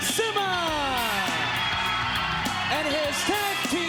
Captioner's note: crowd cheers